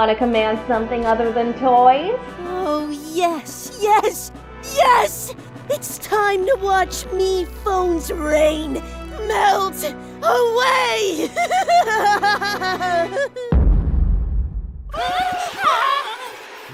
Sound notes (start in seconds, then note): 10.9 Springy laughs; 13.5 boom; 14.9 screaming